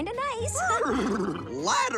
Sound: neigh

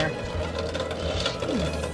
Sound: sounds of water in a drain spout

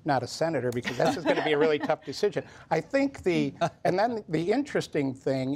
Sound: laughter

